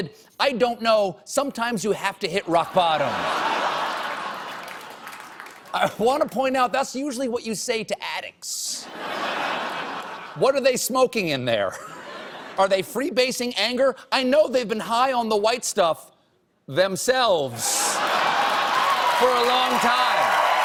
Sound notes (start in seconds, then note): 2.6 laughter; 3.6 applause; 8.8 laughter